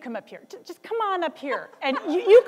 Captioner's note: laughter